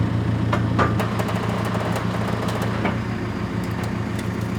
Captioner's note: metal creaking